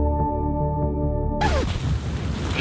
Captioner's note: record scratch sound